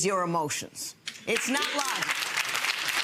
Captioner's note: audience clapping